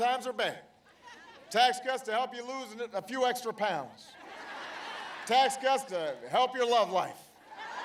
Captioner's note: laughter